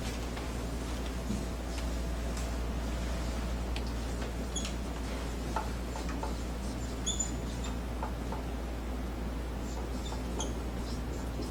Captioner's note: marker writing